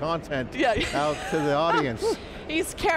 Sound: laughing

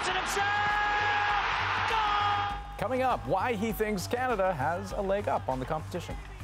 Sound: cheers and Applause

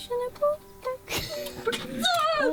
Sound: laughing

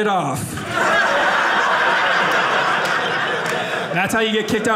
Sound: audience laughing

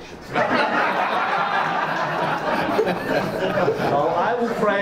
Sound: audience laughs

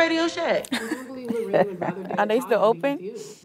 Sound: laughs

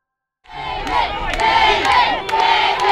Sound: crowd

